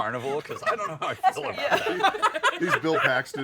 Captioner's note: laughter